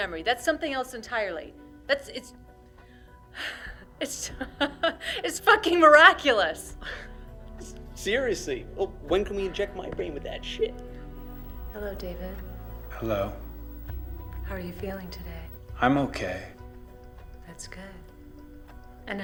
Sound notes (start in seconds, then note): 4.0 laughing